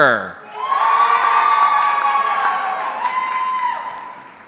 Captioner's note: audience cheering